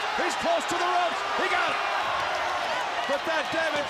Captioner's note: crowd chatter